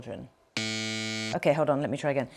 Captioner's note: buzzer buzzing